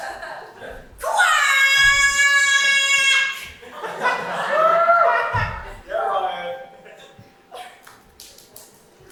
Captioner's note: audience laughs; ding